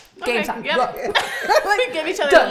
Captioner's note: all laughing